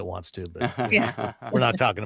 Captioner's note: laughs